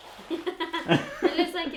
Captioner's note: laughing